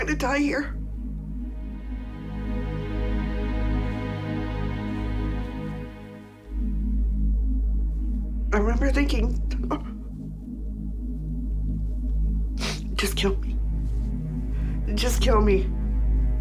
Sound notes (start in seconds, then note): 10.7 sobs